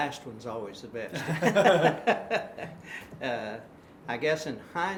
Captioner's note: laughing